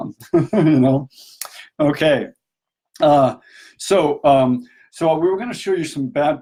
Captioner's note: laughs